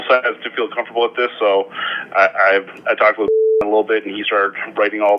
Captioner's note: beep